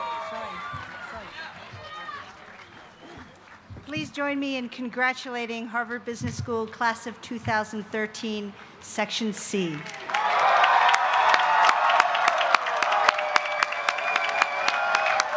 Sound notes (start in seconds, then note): 9.6 applause